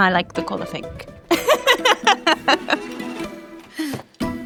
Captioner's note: laughs